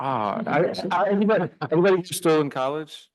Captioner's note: audience laughing